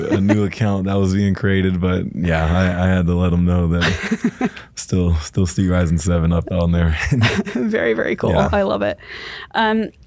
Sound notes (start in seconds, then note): 0.0 laughs; 6.2 laugh